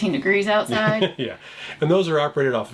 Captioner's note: chuckles